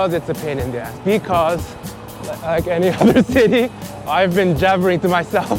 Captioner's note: laughs